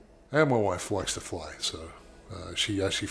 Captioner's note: none